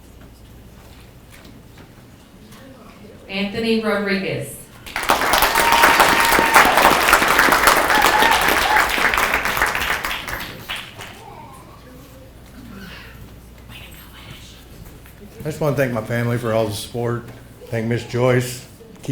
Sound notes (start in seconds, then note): 4.8 people clapping